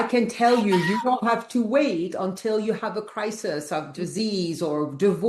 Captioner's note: laughs